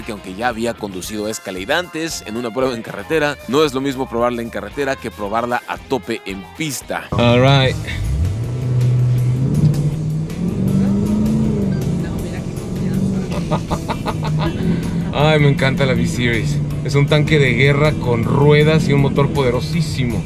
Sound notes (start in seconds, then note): 7.1 engine revving; 8.6 laughter